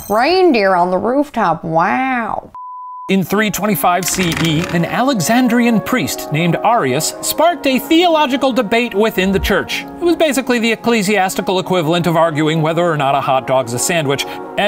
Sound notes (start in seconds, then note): 2.6 beep